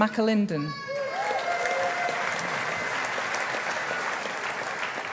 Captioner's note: audience applauding